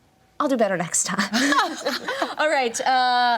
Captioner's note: laughs